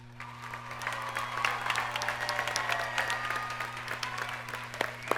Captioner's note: audience cheers and applauds